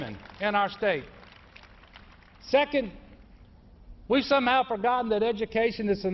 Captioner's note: applause